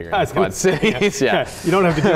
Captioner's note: laughs